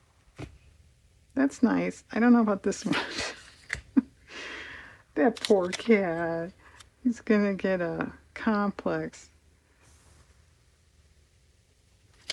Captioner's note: laughs